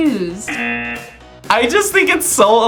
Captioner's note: buzzer rings